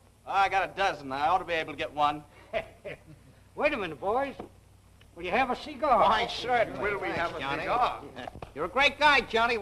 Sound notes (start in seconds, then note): 2.3 chuckling